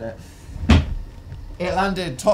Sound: snake thumps

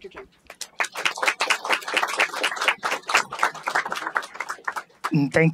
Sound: applause

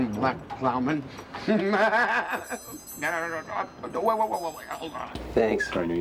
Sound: Griffin giggles

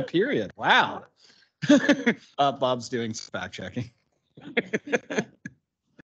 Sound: laughs

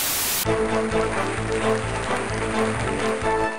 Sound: game show audience applause

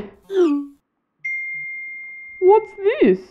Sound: ding!

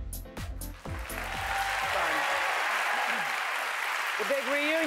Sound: applause

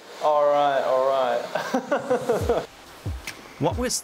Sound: laughs

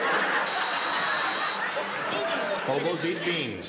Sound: buzzer

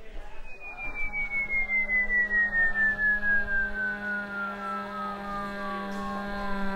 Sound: faint whistling; low buzzing

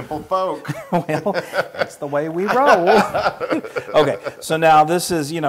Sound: laugh

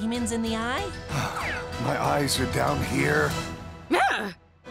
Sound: sighs

